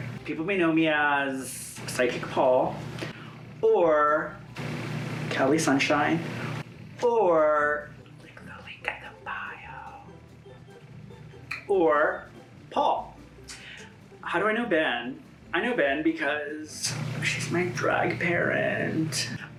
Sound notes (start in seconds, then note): 8.3 whispers